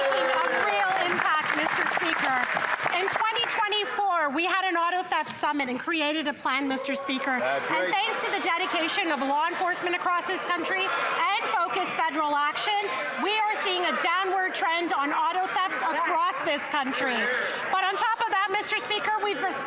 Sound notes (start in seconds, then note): 5.0 cheering and Applause